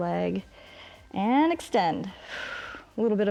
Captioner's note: exhales